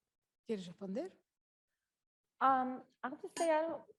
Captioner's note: speaking Spanish